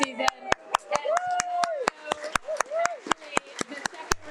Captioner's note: audience applauding